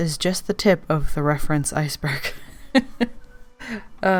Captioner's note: laughs